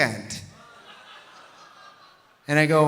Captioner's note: audience laughing softly